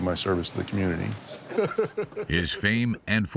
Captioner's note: laughs